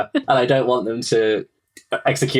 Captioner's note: laughs